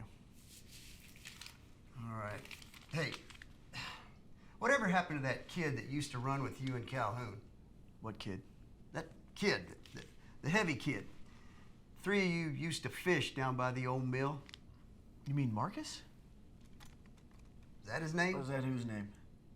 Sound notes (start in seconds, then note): 3.7 sighs